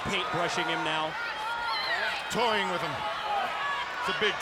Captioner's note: applause